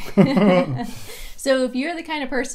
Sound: chuckles

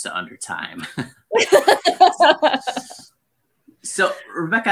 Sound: laughs

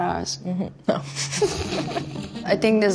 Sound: mutual laughing

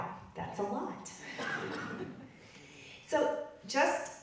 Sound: audience laughing

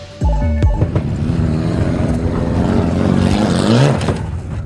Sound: engine revving

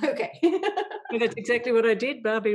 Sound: laughs

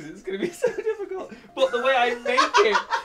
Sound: Bobby laughs

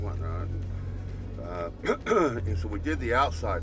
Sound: clearing voice

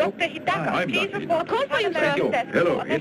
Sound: woman Over PA

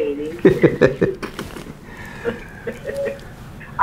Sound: laughing

